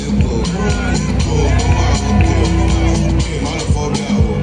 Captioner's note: crowd cheering